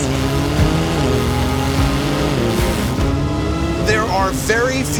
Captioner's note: engine revving